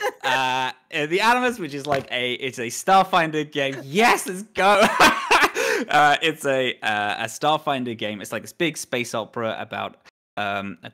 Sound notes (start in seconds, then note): 4.5 laughs